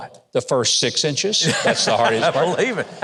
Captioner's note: laughs